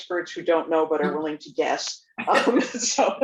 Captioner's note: laughs